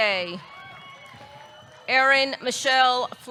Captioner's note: audience clapping; audience cheering